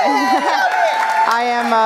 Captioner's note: cheer and applause